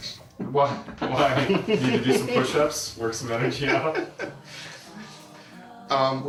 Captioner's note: laughs